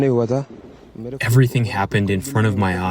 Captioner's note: through translator